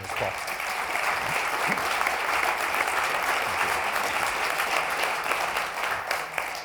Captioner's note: applauding